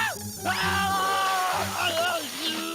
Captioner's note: shouting